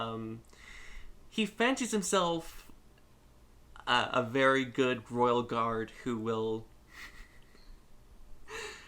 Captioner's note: snickers